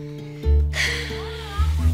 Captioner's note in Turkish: Nefes sesi